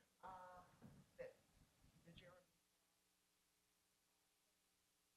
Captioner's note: speaking faintly